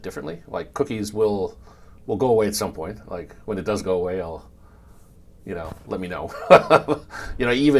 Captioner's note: laugh